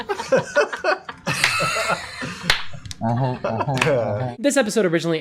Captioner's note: laughter